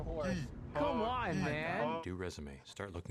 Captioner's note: narrating